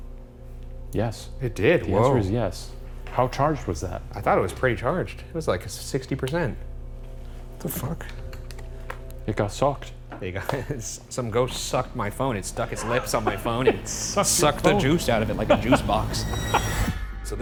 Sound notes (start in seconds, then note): 10.6 chuckles